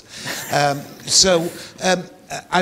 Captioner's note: William and Yuval laughing